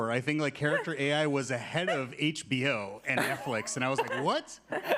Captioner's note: attendees laughing